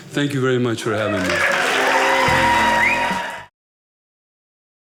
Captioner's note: audience cheering